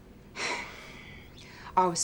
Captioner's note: sighs